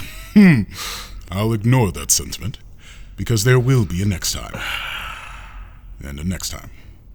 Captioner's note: laughing